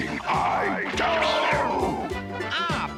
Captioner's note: yowls